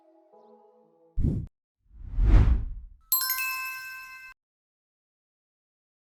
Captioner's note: chiming; swooshes